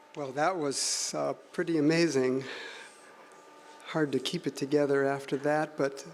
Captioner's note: none